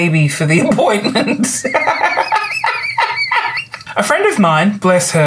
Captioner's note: belly laughs